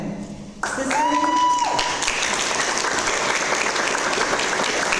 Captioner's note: audience applause